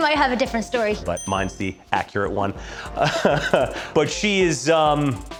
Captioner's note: laughs